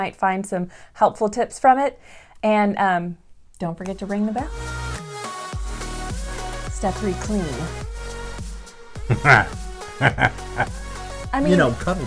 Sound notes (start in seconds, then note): 5.4 theme Music; 9.0 chuckling